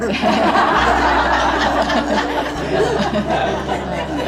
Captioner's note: everyone laughing; crowd chuckles